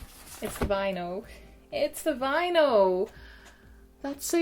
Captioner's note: gasp